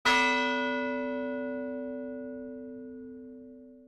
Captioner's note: bell tolling